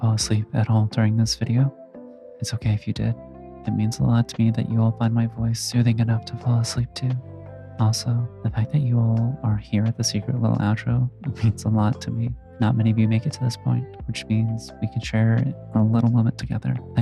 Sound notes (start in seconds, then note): none